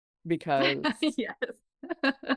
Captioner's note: laughs